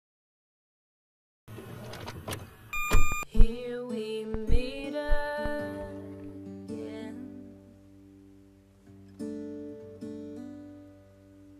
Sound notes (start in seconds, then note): 1.6 cassette tape noise; 7.6 acoustic song plays